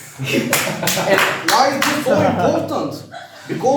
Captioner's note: laughing